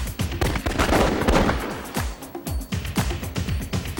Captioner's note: guns firing